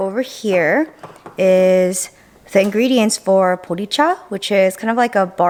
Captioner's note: speaking in foreign language